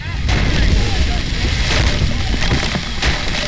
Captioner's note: explosion